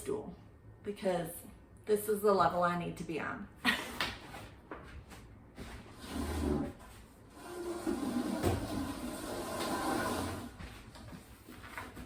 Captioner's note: stool sliding on floor